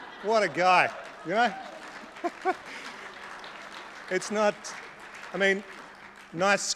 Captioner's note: laughter; laughs